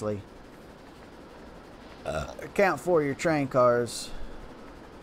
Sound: burrp

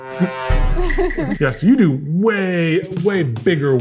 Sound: threatening music; laughs

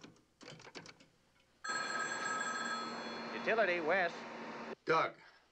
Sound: rings

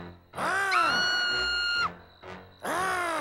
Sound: screaming

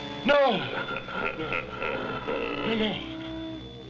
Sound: laughing

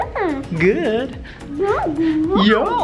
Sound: squealing

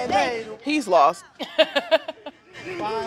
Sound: laughs

